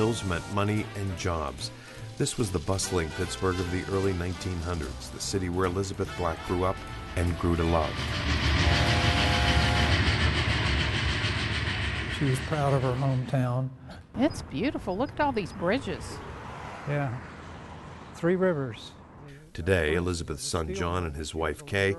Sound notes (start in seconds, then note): 8.6 whistle blowing